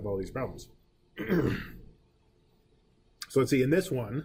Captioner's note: clearing throat